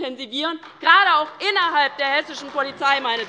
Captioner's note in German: Lachen AfD